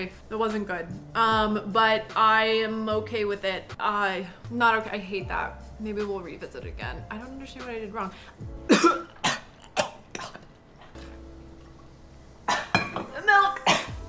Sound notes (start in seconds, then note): 8.6 coughs